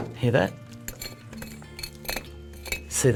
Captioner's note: scraping